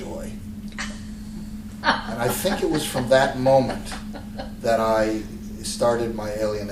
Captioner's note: laughter